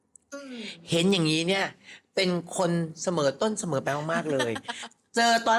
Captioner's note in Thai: เสียงหัวเราะ